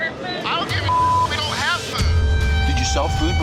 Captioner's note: beep